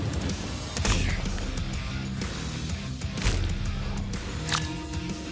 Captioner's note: impact sounds